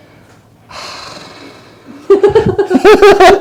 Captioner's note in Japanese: ため息